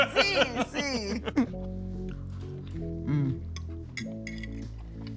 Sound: laughing

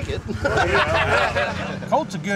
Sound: laughter

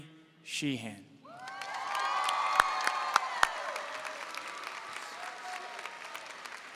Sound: audience cheering and applauding

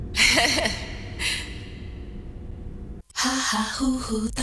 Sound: laughing

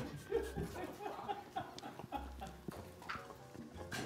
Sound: crew laughing

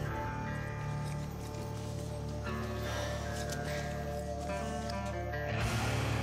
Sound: footsteps; tense music

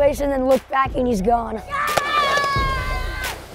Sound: maniacal screaming

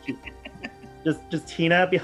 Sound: laughter

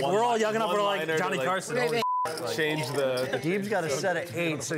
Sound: beep

